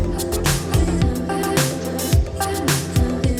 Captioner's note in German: none